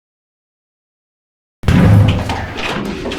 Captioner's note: door slams open